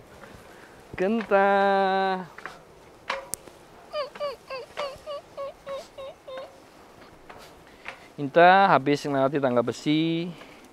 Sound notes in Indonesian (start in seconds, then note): 3.9 menirukan suara monyet